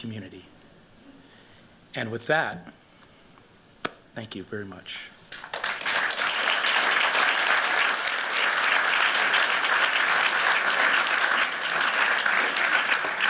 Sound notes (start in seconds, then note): 5.3 applause